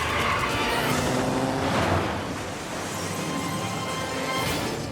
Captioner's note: vehicles slam